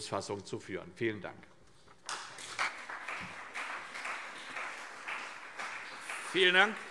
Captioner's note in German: Beifall CDU und BÜNDNIS 90/DIE GRÜNEN